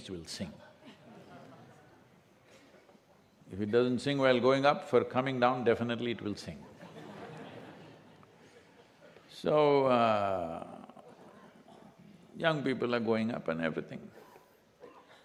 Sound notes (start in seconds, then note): 0.7 few laugh; 10.2 laughter